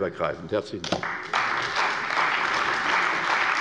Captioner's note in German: Beifall bei der CDU und dem BÜNDNIS 90/DIE GRÜNEN